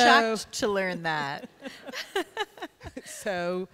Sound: laughter

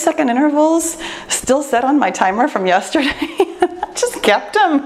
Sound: laughs

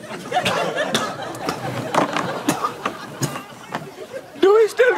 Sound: coughing

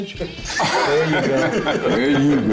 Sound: laughter

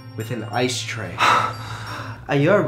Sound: gasping

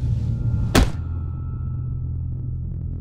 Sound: head thuds

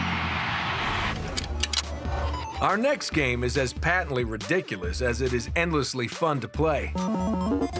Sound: cheering; guitar playing

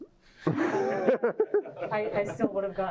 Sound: laughter

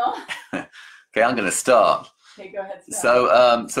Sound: laughs

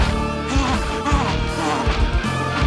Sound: panting

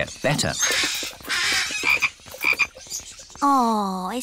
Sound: birds squawk; frog croaks

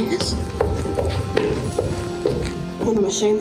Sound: loud footsteps

